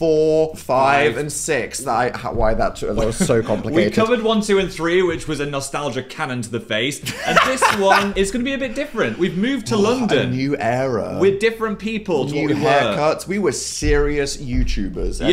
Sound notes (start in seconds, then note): 2.9 laughs; 7.0 laughs